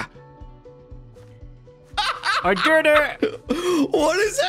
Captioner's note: laughs